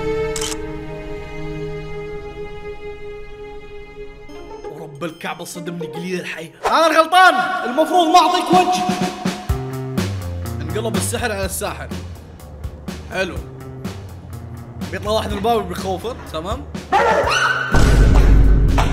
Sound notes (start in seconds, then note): 16.9 barking; 16.9 screaming